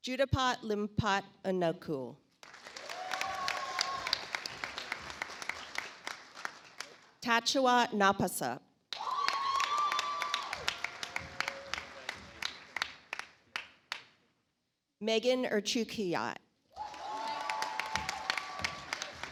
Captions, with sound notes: Juthapat Limpattanakul. (audience applauds) Tachua Napasa. (audience applauds) Megan Erchukiat. (audience applauds)